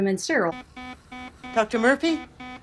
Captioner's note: alarm beeping